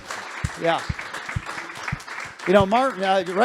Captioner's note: applause